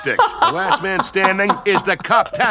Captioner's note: laughing